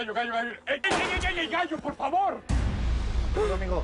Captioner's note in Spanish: Disparos